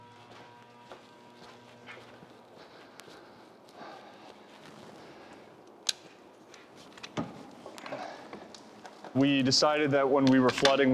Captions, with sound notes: (footsteps crunching) - We decided that when we were flooding